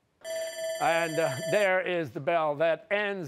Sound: bell rings

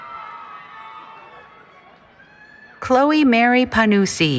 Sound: cheering

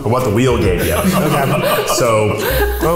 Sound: all laugh

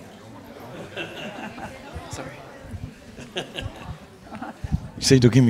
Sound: chuckles; woman chuckles

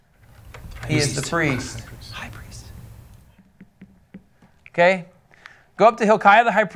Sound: whispers

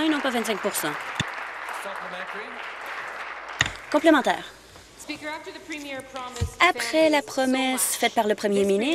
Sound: applause

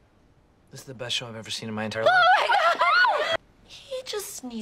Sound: ANNIE and BRITTA cheer in excitement

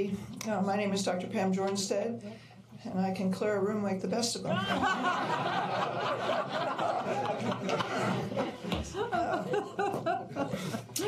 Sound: laughter

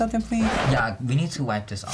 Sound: record needle scratches

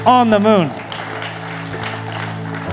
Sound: applause

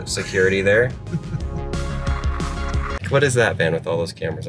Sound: laughing

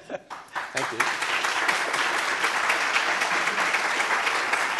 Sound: audience applauding

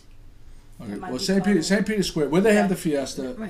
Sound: voiceover

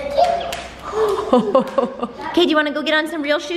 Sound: laughs

